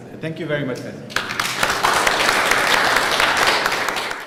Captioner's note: applause